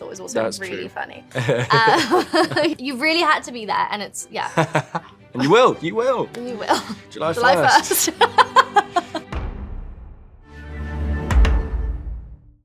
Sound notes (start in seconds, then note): 7.5 laughs; 9.6 light music